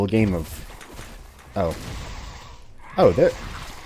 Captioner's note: kaboom